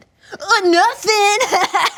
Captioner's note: laughs